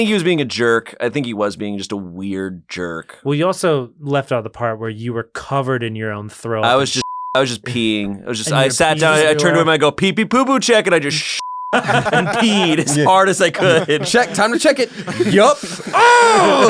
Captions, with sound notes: - I think he was being a jerk. I think that guy is just being a weird jerk. - Well, you also left out the part where you were covered in your own thro- - I was just, I was just peeing. I sat down and I turned to him, and I go, pee pee poo poo check, and I just (beep) and peed as hard as I could. - Check, time to check it, yup.